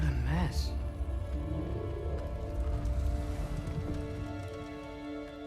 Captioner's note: Chaurli groans